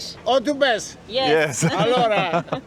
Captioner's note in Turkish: kahkaha